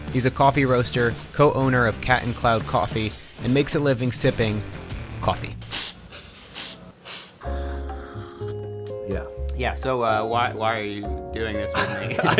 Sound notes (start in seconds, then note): 5.6 slurping; 7.4 relaxing music